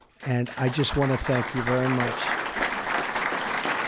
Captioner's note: applause